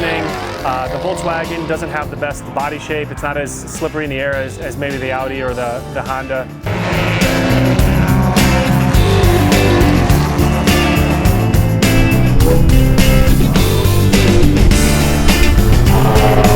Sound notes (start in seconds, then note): 7.1 car engines roar; 7.1 upbeat rock music